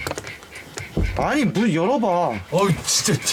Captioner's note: knocking